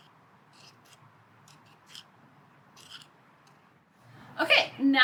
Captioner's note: stirring noises